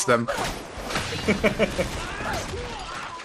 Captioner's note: laughs